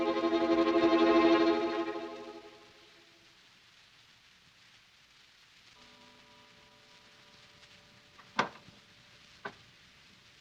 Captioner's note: door opens